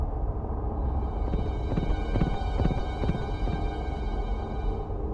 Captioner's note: Muffled sound of Gaylord_Steambath riding horseback over top of the mesa